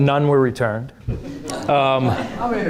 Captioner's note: audience laughing